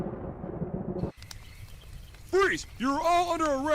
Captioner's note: fire Crackling